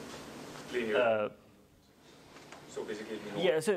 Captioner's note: indistinct conversation